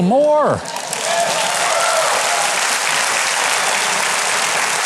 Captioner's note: audience claps and cheers